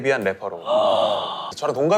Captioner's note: astonished